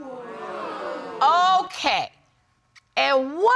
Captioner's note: audience murmuring